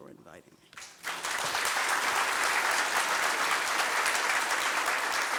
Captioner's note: applause